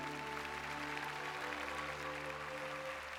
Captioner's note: applause